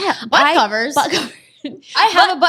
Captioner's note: laughs